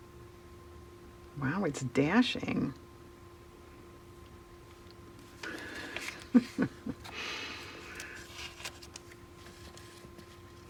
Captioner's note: laughs